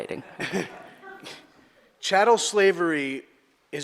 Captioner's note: audience laughter